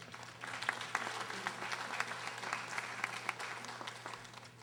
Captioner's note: audience applauding